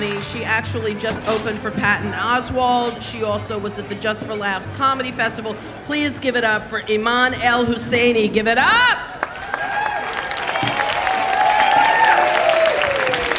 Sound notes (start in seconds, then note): 9.1 audience cheering and applauding